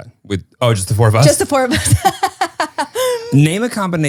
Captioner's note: laughs